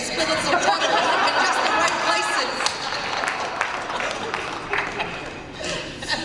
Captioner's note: laughter and applause